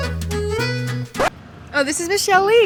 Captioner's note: record scratches